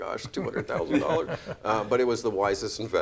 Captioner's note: laughing